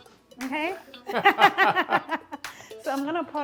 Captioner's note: jaunty music; both laugh